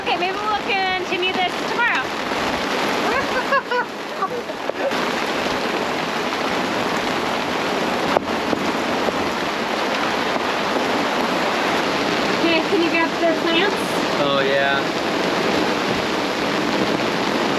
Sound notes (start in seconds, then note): 3.2 laughing loudly; 5.4 wind whooshing